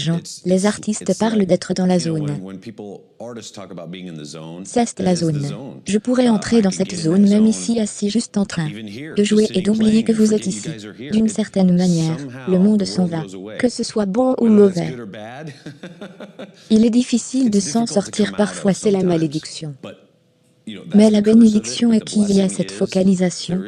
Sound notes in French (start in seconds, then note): 15.3 rire